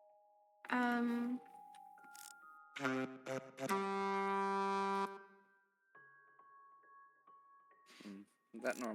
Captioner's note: blows horn